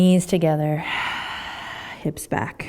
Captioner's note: exhaling